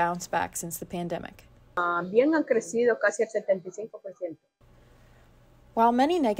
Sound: in Spanish

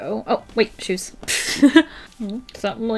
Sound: laughs

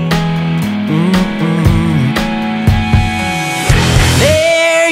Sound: humming

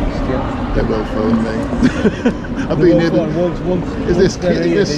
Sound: laughs

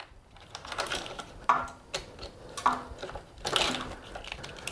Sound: wires clicking

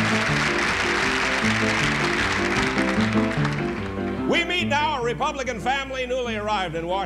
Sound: applause and music

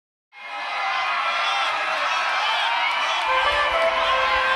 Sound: audience cheering; trumpet music

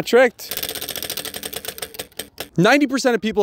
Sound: wheel whirring

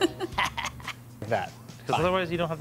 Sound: Linus cackles

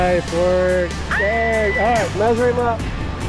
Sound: screams happily

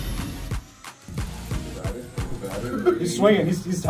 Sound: laugh

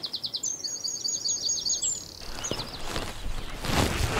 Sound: birds chirping; feed bag rustling

